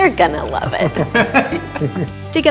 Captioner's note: laughter